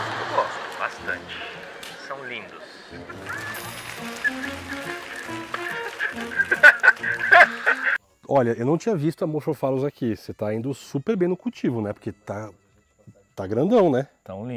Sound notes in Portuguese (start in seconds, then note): 5.6 risos